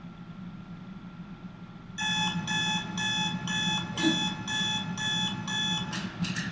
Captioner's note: alarm ringing